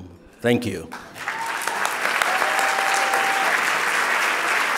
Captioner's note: audience applauding